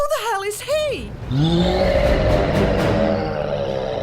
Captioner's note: roar